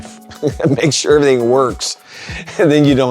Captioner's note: laughs